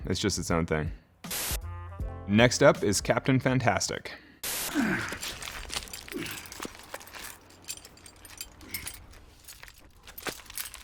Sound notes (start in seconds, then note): 4.6 climber grunting; 4.9 tools jingling